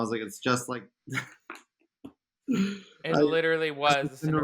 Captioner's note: laughing